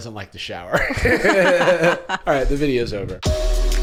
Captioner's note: laughing